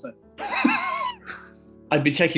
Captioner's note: laughing